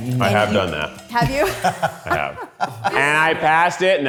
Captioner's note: laughs